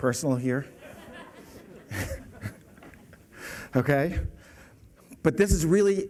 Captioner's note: laughter